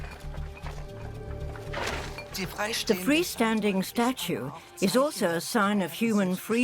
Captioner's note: in German